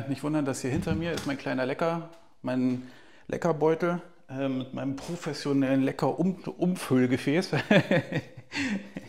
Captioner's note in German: Gelächter